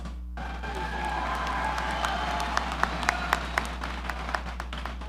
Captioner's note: audience applauding